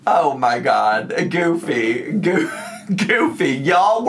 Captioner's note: laughs